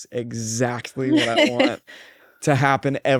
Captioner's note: laughs